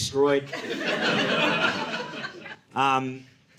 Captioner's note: audience laughing